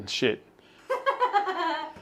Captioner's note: giggles